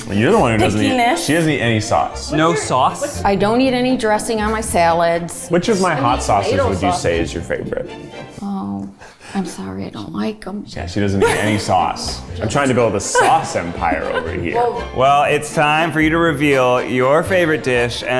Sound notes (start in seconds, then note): 12.4 both laugh